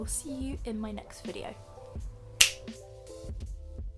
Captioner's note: finger snap because traditions never die